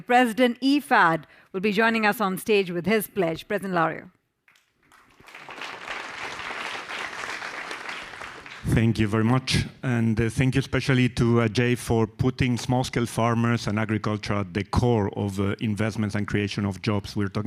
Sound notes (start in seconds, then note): 8.7 audience applause